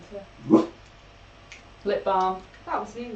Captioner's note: LEELOU barks